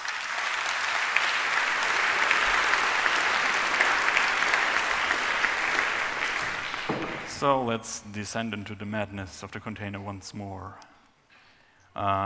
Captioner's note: applause